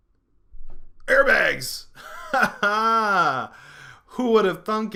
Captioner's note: laughing